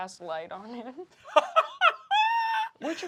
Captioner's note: laughing